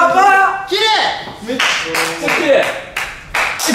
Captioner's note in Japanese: 拍手